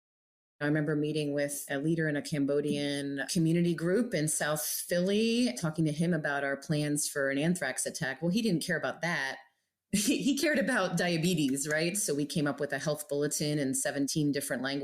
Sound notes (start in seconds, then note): 10.0 chuckles